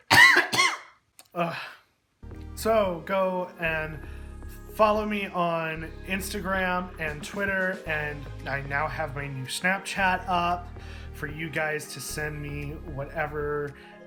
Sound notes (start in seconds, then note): 1.4 sigh of relief